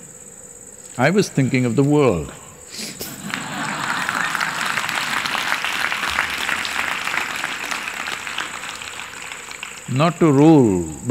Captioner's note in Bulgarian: смях